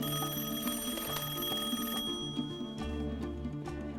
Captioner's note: rings